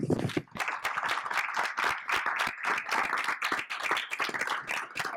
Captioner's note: audience applauding